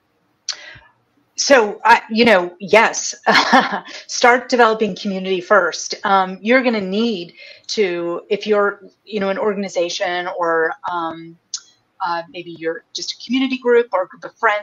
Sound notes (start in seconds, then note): 2.3 laughs